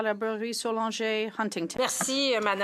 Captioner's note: speaking French